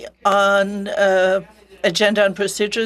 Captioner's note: speaking French